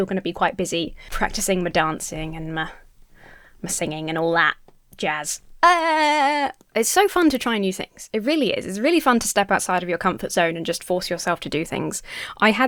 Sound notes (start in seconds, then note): 5.6 Emmas laughs tensely